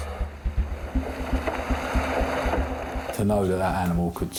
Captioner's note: water sloshing